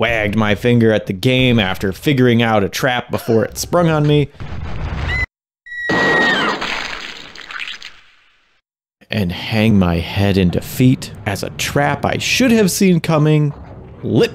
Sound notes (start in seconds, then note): 4.1 screams